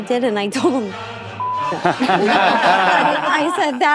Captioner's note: all laughing